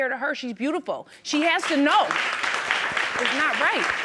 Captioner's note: audience applauding